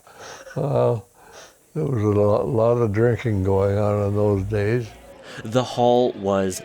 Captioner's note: chuckle